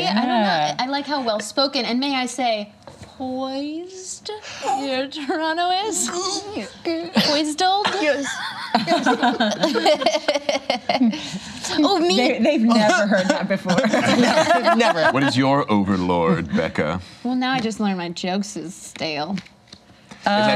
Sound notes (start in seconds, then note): 6.0 laughs; 7.9 laughter; 13.6 laughter